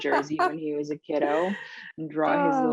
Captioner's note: laughing